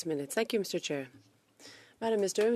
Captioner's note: speaking French